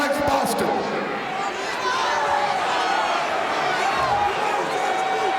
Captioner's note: audience shouting